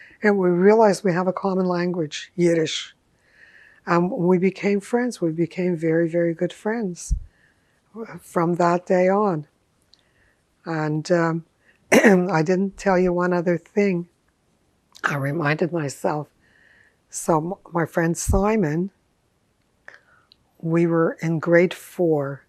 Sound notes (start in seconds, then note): 11.9 clears throat